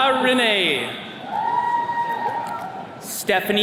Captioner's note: attendees cheering